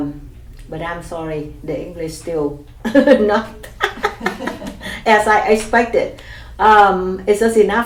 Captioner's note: laughs